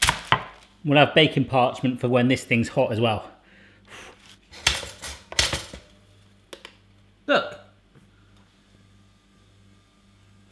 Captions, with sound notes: I wanna have baking parchment for when this thing is hot as well. (toaster rattles) Look.